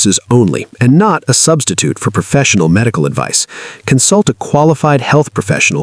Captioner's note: voiceover